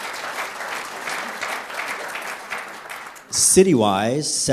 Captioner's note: applause